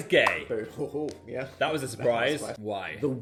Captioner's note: palms clapping